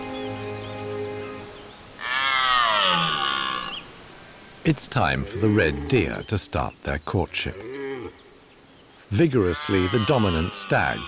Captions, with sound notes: [deer roars] It's time for the red deer to start their courtship. Vigorously, the dominant stag